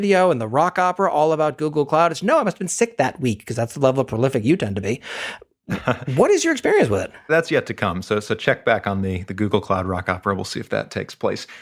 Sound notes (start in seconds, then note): 5.7 laugh